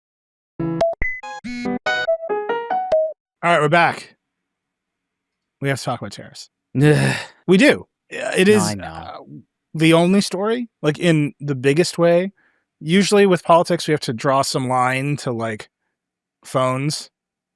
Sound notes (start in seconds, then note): 1.9 light upbeat music; 6.7 groans